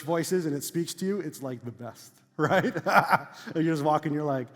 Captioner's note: laughs